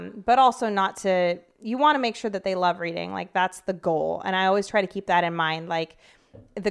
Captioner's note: none